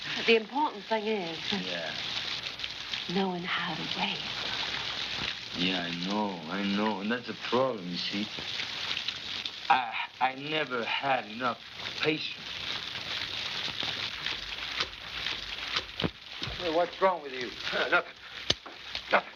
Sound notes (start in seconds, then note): 12.5 water splashing